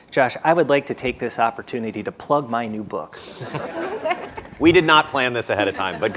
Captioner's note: laughter